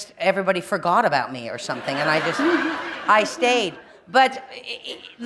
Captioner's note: laughter